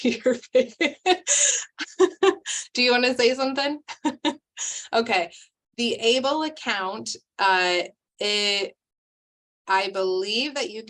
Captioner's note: laugh